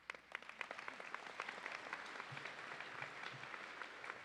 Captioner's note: audience applauding